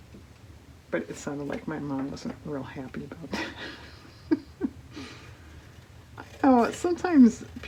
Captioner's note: laughs